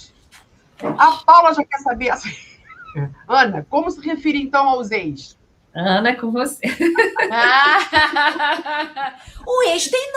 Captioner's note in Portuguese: risadas